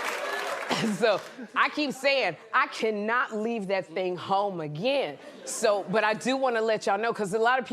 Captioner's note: laughter and applause